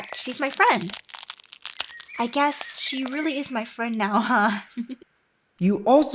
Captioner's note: laughs